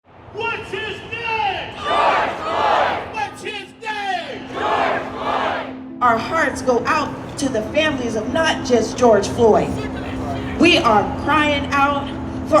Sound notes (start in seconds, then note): 0.0 chanting; 5.9 speaker on megaphone